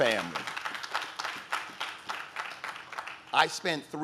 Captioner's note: audience claps